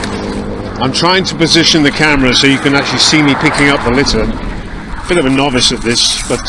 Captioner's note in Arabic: أصوات المرور